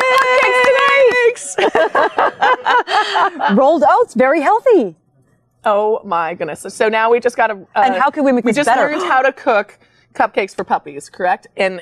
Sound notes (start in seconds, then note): 0.4 women laughing